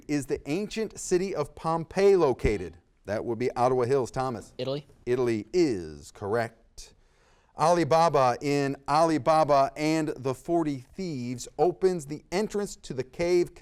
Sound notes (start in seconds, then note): 2.5 buzzer beeps